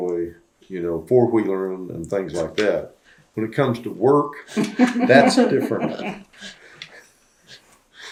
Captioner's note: laughter